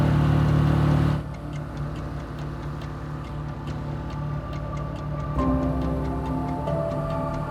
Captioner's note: boat engine droning; pensive music continues